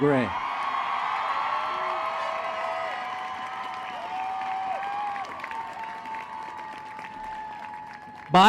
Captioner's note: cheering